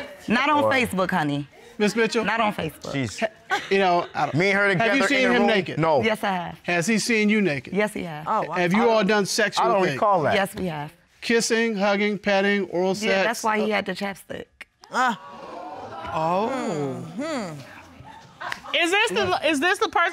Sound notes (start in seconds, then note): 15.1 audience exclaims; 16.1 scoffs